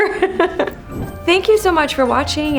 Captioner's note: laughs